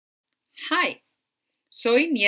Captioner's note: speaking spanish